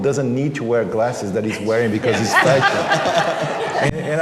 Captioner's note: laughter